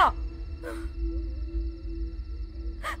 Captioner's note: Amal crying